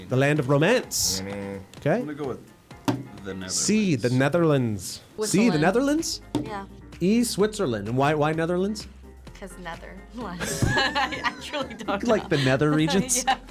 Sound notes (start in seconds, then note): 10.4 laughs